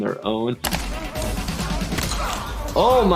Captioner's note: men grunting